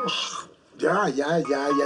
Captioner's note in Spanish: alarma celular